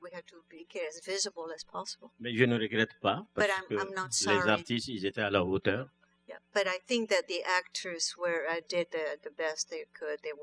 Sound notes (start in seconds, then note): 2.7 speaking french; 5.6 speaking french